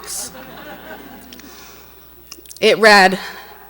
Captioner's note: audience laughs